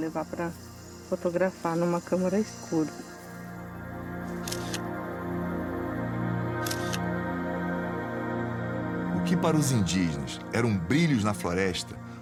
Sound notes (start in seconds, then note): 4.3 camera click; 6.5 another click